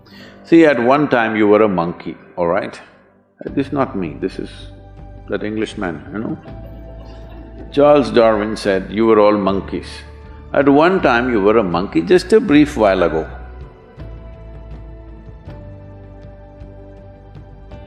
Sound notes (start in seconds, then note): 6.2 few laugh